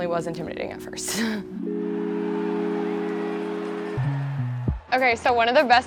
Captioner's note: audience cheering